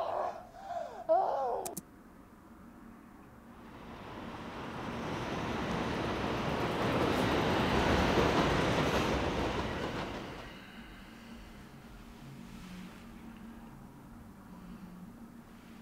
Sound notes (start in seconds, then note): 1.6 keyboard click